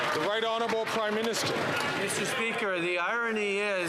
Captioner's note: some Applause